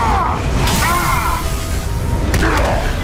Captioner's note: electrical zapping; grunts